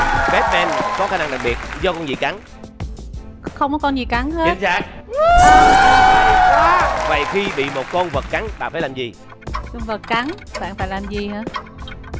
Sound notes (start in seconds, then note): 5.5 clapping